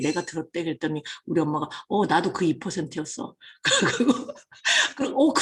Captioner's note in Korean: 웃음